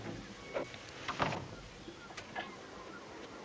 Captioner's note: door closing